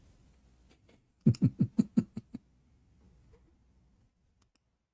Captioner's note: Ketawa